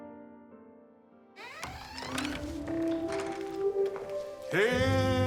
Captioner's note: door squeaking and clattering